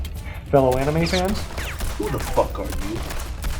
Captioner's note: gunshots